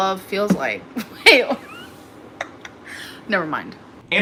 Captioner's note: laughs